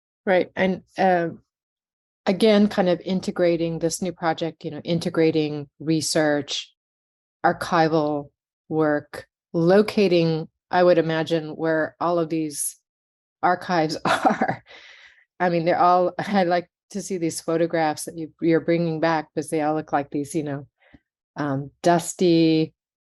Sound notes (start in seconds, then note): 13.8 chuckling